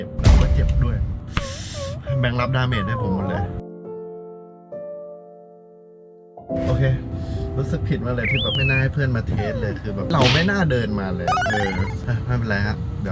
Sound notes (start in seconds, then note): 1.3 gasping; 3.4 heart-touching music playing